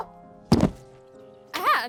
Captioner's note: thud